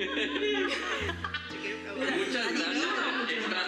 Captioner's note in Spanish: risas